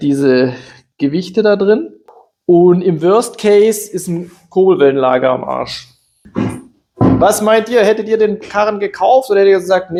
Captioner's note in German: räuspern